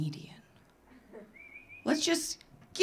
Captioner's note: audience member whistling